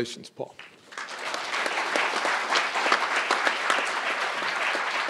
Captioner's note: crowd applauding